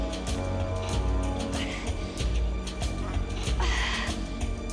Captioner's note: groaning